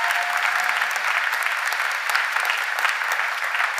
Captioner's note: cheers and applause